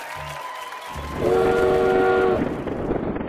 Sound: train whistle blows

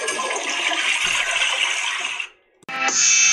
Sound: flushing sounds

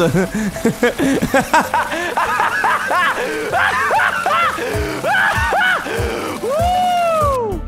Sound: psychopathic laughter; slow laughter

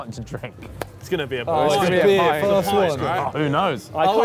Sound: chattering

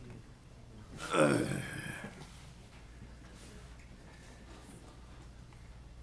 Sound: loudly clears throat

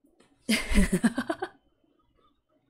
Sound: laughs

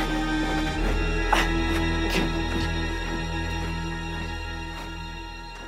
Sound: Agoston gasping

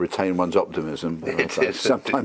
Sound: laugh

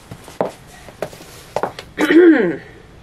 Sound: shoe noises; clears throat

